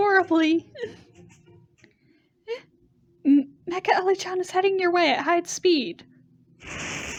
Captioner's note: laughs